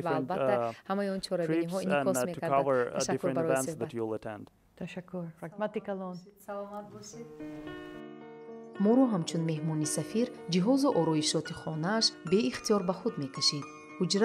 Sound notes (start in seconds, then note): 5.8 speaking tajik; 10.7 journalist narrating in tajik